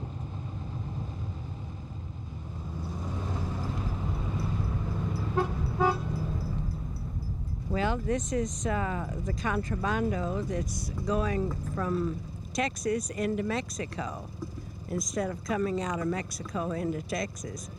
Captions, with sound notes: [ Engine revving ] [ Horn honking ] >> Well, this is the contrabando that's going from Texas into Mexico, instead of coming out of Mexico into Texas.